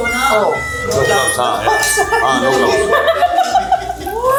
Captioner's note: laughs